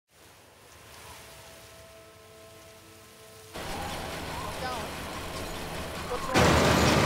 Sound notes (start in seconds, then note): 0.1 wind rustles; 6.8 machinery noise